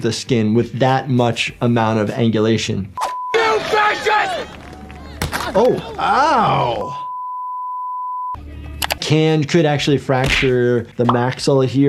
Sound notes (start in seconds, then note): 3.0 beep; 6.8 long beep